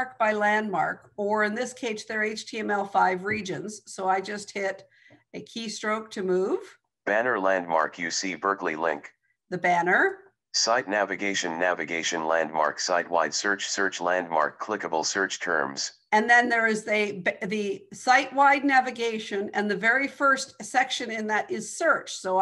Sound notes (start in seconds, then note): 7.1 recorded voice; 10.6 recorded voice